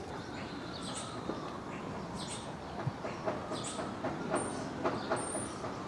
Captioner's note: sirens; birds chirping